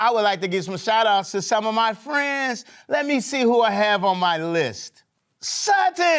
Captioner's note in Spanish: none